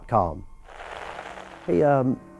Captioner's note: static crackling